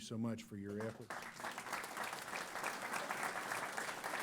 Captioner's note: applause